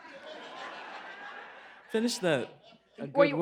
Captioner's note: laughter